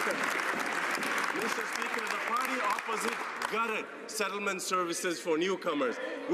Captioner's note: some Applause